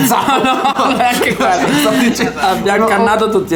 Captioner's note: laughters